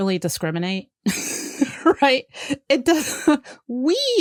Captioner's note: laughs